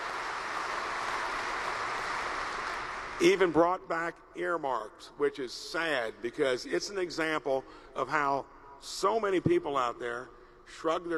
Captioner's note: applause